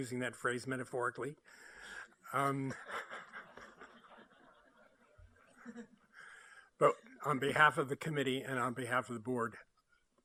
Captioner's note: laughter